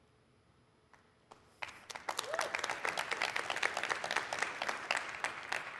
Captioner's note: applause